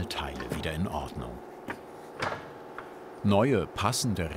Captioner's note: roaring whirring in the background